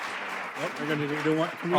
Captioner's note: applause